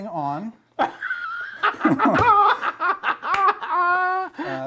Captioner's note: laughing